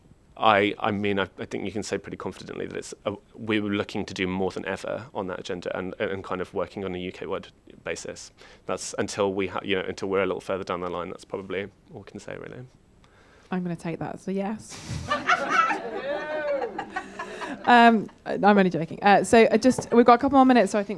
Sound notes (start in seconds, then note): 14.9 audience laughs